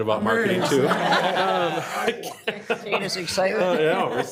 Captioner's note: group laughs